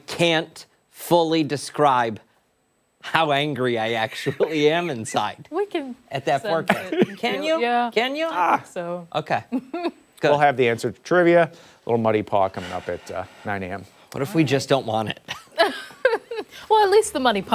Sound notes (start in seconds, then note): 13.3 laughter